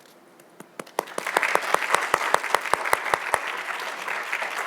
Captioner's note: audience applauds